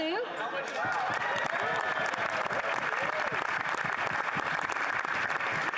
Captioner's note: applause